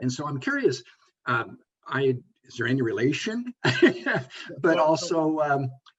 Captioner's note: laughs